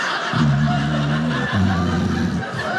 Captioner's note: snore noise; audience laughing